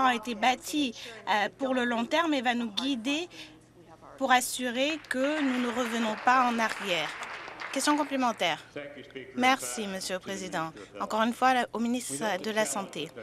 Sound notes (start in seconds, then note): 9.2 some Applause